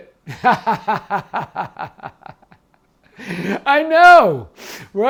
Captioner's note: laughing